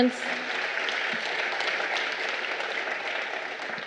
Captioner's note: crowd applauding